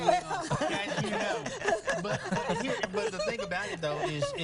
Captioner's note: laughter